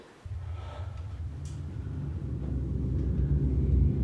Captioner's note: mist humming